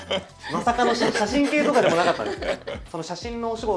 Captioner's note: laughs